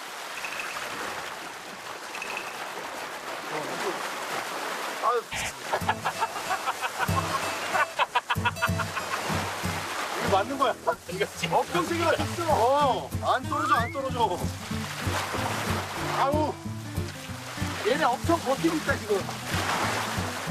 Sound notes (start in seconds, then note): 2.0 incoming waves